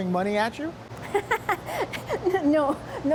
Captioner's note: laughter